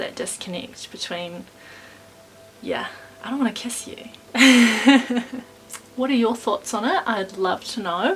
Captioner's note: laughs